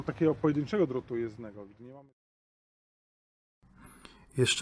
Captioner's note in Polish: sam dźwięk nagrania narracji